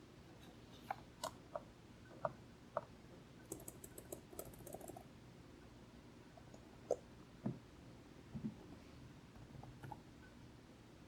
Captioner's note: no speaking, light keyboard noises